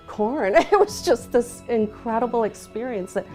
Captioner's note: laughs